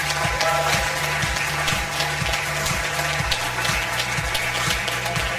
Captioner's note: audience applause; upbeat music